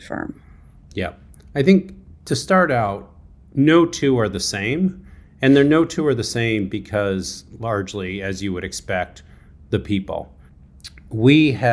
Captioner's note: lip smack